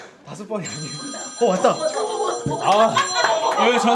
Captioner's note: perfectly timed phone call rings